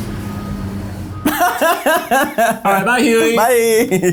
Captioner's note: laughs